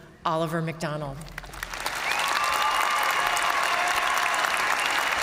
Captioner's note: audience cheering and applauding